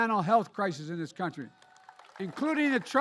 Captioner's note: applause